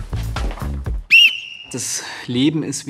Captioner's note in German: lauter Pfiff